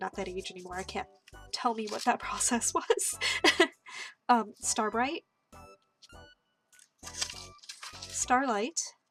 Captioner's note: laughter